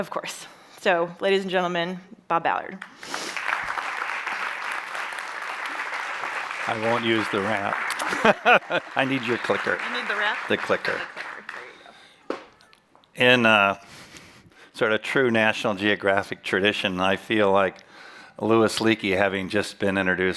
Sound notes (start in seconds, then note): 2.8 applause; 7.7 chuckles